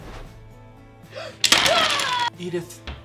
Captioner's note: Jenga blocks clattering